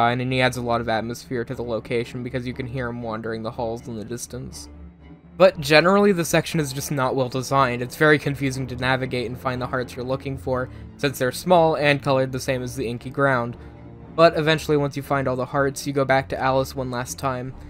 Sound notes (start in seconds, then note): none